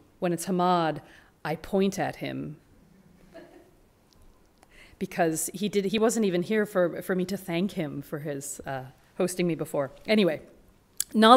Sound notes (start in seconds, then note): 3.4 audience laughing